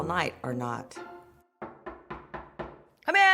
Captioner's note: knocking